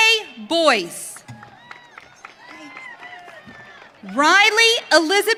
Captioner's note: audience cheering